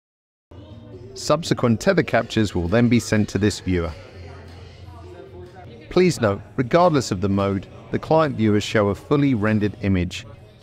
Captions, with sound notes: Subsequent tether captures will then be sent to this viewer. (people softly chattering) Please note, regardless of the mode, the client viewers show a fully rendered image.